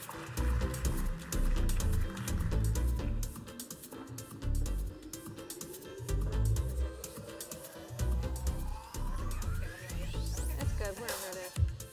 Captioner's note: applause